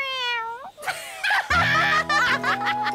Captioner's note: laughing